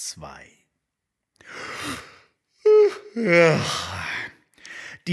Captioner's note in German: Herzhaftes Gähnen